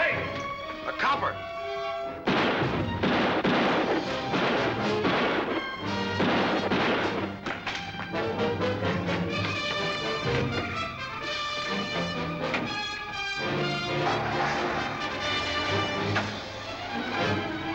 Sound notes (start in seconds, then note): 2.2 guns firing; 13.6 engine revving